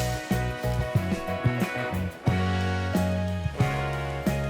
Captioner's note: Dodo noises in the distance